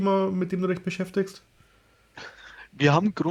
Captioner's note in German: lacht